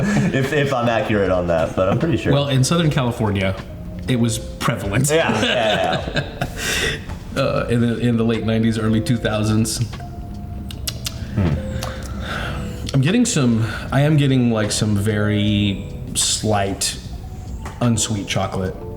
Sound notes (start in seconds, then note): 0.0 all laughing; 5.0 laughs; 10.6 tongue clicking